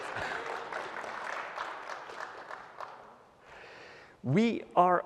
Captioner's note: applause